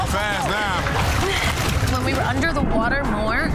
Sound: gasping

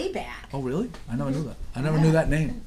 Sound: voiceover

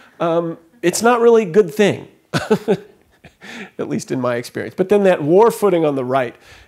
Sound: chuckle

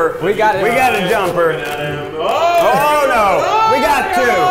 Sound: alarm ringing

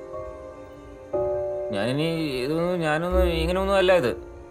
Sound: stammering

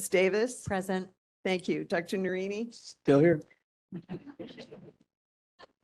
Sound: laughing

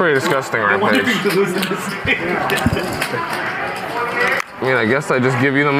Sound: players murmuring in background

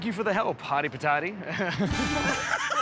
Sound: laughter; chuckles nervously

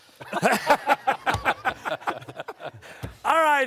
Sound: laughter

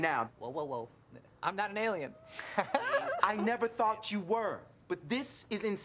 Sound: laughs

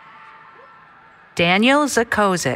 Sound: cheering

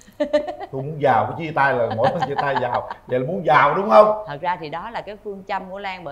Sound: laughter

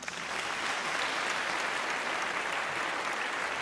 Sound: applause

